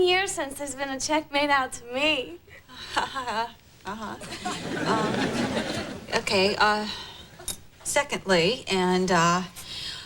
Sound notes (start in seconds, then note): 2.8 nervous laughter